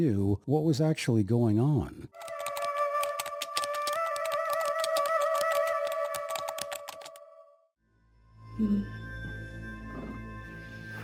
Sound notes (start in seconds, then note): 2.1 keys typing; 2.7 eerie music; 8.0 tense music